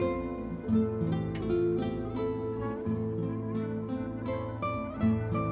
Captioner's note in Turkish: none